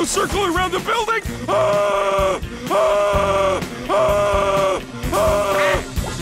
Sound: screaming

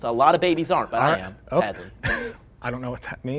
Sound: chuckles

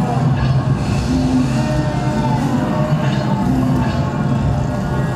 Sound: voices groaning

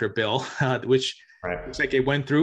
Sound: chuckles

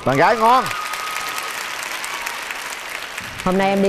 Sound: audience applause

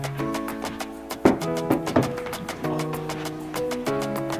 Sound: mirror taps

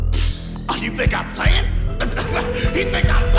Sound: laughs

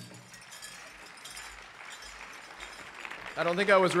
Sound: audience applauding

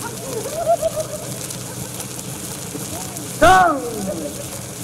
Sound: laughter

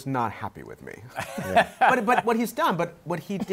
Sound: laughs

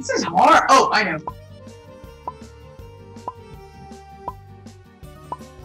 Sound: timer count down

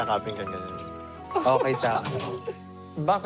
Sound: chuckles

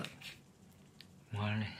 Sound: silence

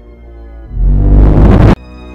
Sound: intense Boom

